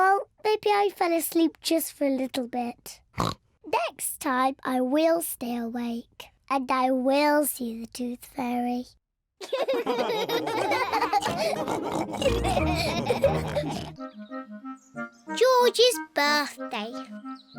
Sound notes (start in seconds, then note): 3.2 oinks; 9.4 all laughing